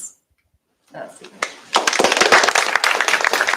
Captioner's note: applause